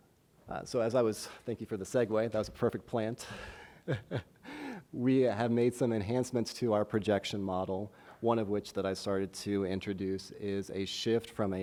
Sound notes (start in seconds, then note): 3.3 chuckles